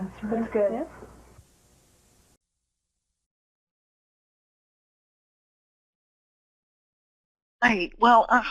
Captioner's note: silence